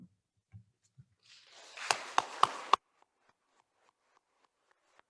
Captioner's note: attendees applauding